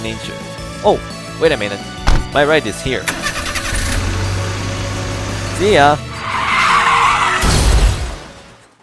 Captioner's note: door closes; engine sounds; car drifts and crashes